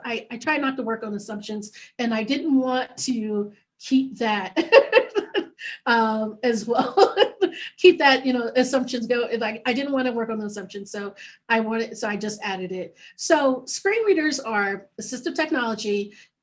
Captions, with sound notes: I try not to work on assumptions and I didn't want to keep that as well. (laughing) Keep that assumptions go is like I didn't wanna work on the assumptions, so I wanted, so I just added it. So Screen Readers are assistive technology